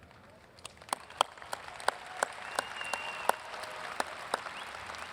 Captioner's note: audience applauds and cheers